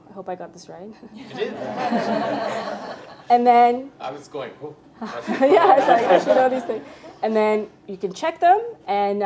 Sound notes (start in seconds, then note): 1.1 group laughs; 5.0 group laughs